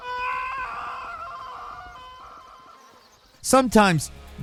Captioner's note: Charles screaming